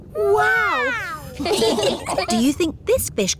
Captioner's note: laughing